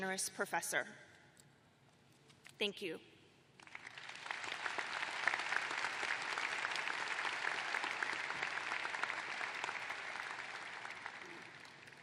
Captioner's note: applause